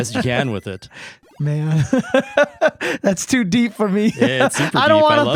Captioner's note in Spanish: Riendo